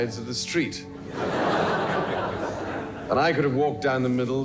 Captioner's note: audience laughing